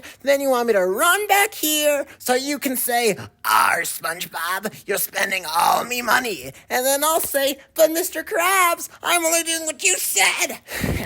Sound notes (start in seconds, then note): none